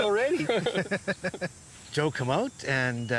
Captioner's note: laughing